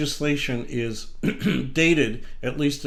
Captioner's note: clears throat